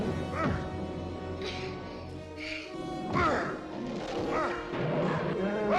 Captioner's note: Amy panting; bear bellowing; Eli groaning; Amy panting; Eli yells; bear roars